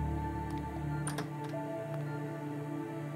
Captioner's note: Door opens